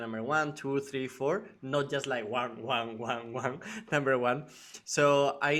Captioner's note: chuckles